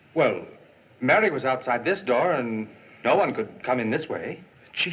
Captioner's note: none